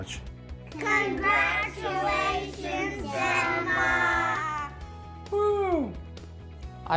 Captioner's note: whooping